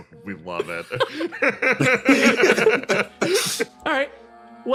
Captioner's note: laughs